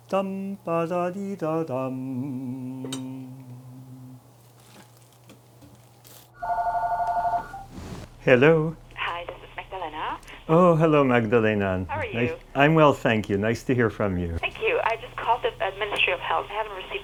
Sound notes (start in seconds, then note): 0.1 continued singing; 6.3 phone ringing